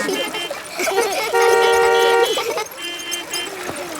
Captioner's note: laughter; beeping